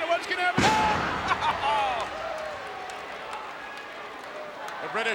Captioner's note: Jerry laughs